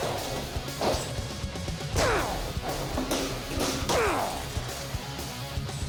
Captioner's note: grunting